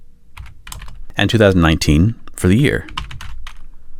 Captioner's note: typing